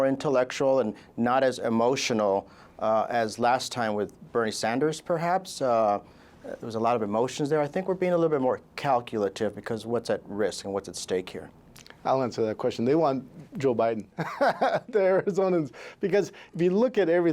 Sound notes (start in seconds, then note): 14.2 laughing